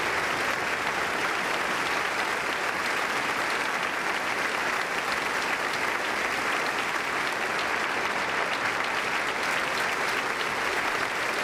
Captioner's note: applause